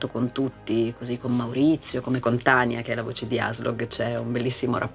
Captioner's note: Ragnar's italian voice